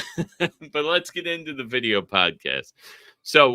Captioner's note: chuckling